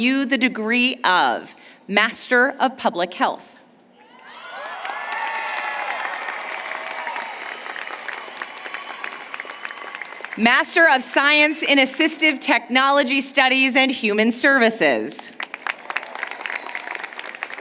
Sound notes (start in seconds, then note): 6.9 applause